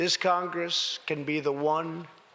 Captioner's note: none